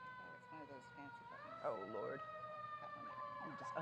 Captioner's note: siren whirring